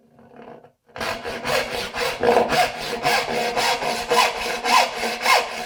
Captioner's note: saw on wood rhythmically rasping